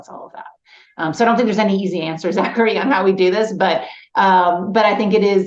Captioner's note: laughs